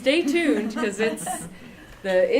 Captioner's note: laughter